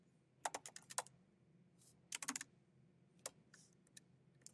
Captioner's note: keyboard clacking